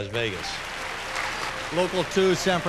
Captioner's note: applause